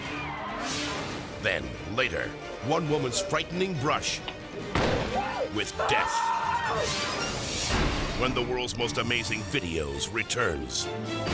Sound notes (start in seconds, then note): 0.0 audience screams; 4.7 gunfire blasts